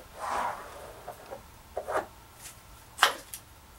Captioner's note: tools scrape